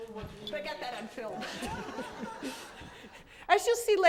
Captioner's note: laughter